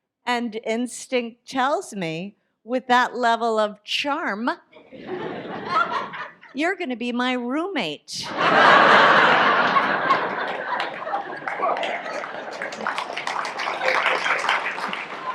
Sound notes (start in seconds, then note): 8.2 audience laughs